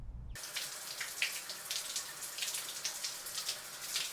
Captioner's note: water gurgling